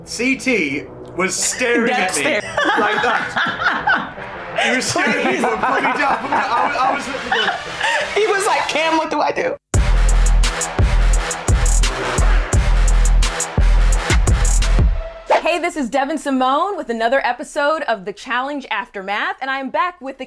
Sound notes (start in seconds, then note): 4.4 woman laughing; 9.7 upbeat music